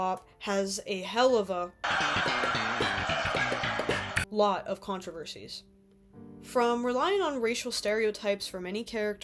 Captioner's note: laugh track